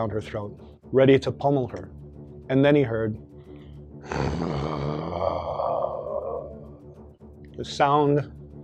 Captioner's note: deep growling noise